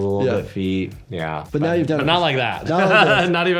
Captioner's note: laughs